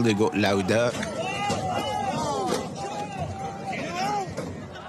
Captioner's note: protestors yelling